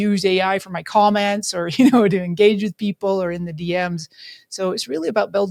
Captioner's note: laughs